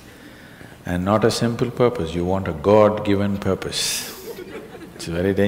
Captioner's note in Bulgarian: смях